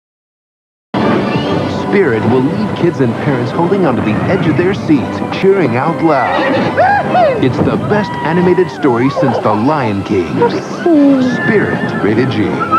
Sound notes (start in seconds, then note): 6.2 neighs